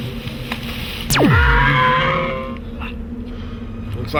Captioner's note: screaming